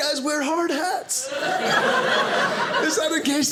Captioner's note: audience laughing